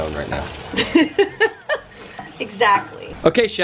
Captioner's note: laughing